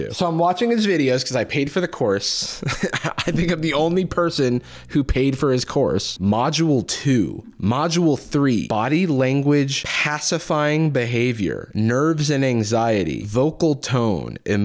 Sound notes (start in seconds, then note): 2.4 laughs